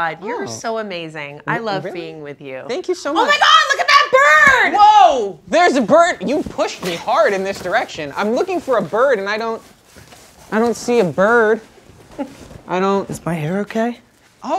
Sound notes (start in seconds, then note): 9.7 astroturf rustling